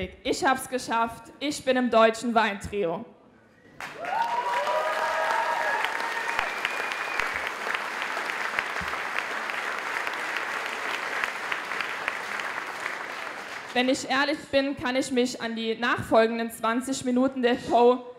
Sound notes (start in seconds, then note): 3.8 applause